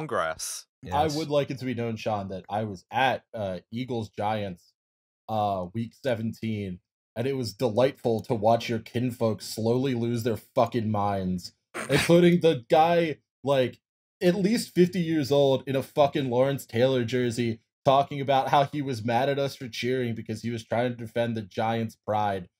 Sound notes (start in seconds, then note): 11.8 laughter